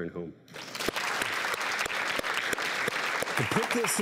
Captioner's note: applauding